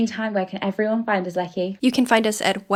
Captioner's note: none